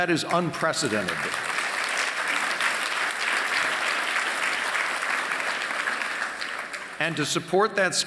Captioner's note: applause